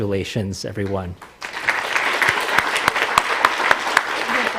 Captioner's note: applause